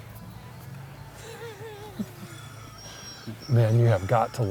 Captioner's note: laughs